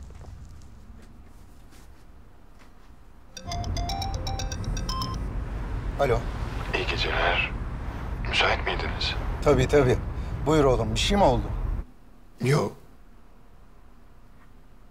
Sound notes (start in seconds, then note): 3.4 phone is ringing; 6.0 Akif voice